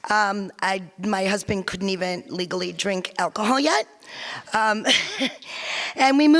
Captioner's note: laughs